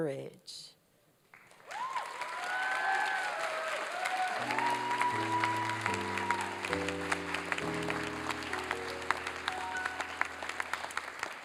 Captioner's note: applause and cheering